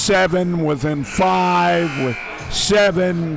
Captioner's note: buzzer buzzes